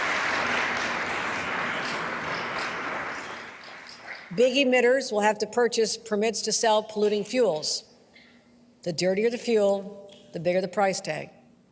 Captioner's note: applause